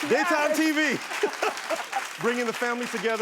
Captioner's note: laughing